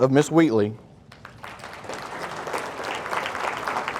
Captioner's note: audience applauding